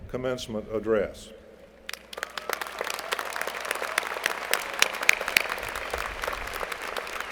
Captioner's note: applause